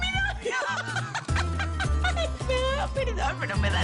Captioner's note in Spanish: Risas